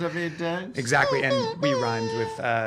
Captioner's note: hooting